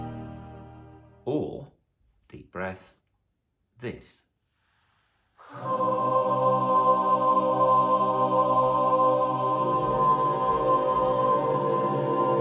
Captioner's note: deep breath